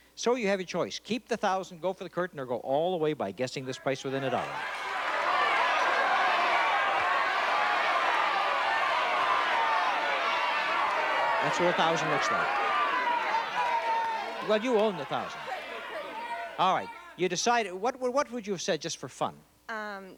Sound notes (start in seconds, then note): 6.0 chatter